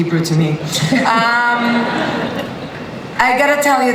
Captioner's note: laughter